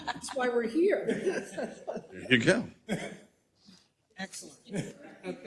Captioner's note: laugh